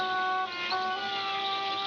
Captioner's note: loud engine